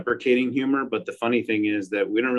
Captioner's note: laughs